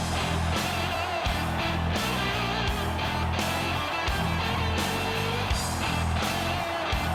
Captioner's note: crowd cheering; driving music continues